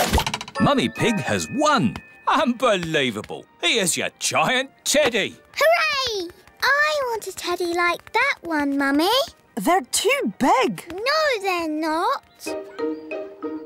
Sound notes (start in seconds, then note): none